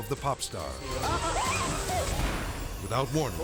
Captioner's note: dramatic music; hosts screaming